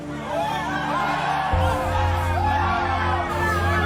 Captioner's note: people cheering